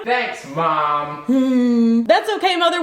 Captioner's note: grunting